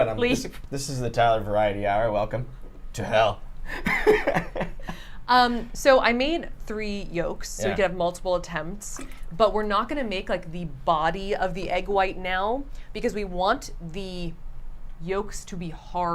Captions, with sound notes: - This is what I'm doing. - Leave. - This is the Tyler Variety Hour, welcome to Hell. (laughs) - So I made three yolks, so we could have multiple attempts. But we're not going to make like the body of the egg white now because we want the yolks to be harder.